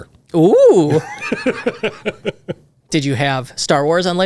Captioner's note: laughs